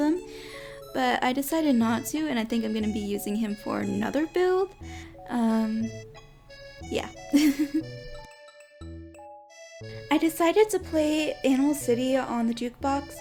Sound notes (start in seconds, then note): 7.3 giggles